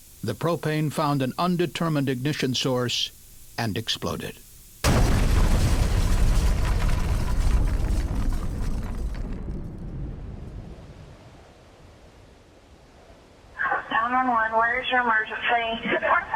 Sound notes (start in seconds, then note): 4.8 sound of explosion